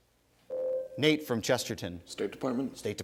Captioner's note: ding